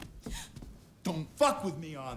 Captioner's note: Abby gasps